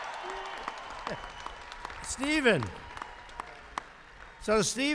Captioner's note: applause